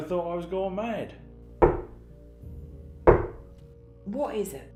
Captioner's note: knocks again